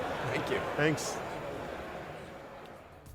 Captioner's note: laughs